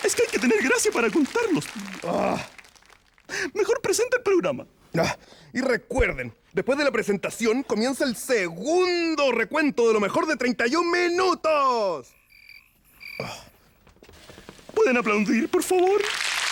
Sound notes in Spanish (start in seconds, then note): 12.0 Grillos